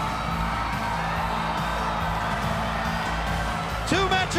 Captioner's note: crowd cheering